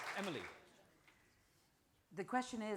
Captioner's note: applause